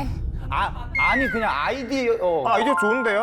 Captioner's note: encouraging sound effect